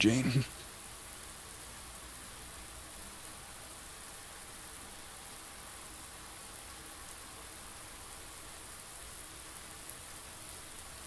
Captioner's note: raindrops falling